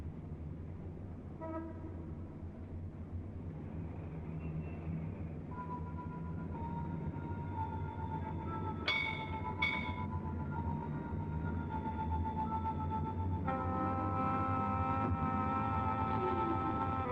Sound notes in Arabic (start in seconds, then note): 8.8 دقات الجرس